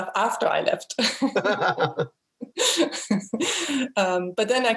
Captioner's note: both laugh